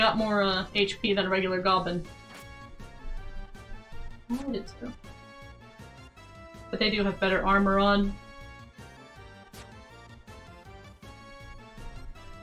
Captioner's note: noise of disbelief